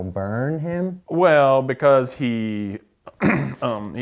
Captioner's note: cough